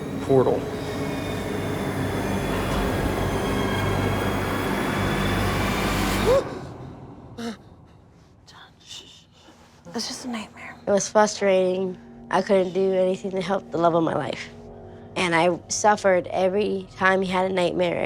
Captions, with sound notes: (intense musical buildup) - (gasps) - John, shh shh, that's just a nightmare. - It was frustrating. I couldn't do anything to help the love of my life. And I suffered, every time he had a nightmare, every time you had a vision.